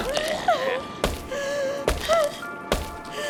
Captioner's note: Esther yells, sobs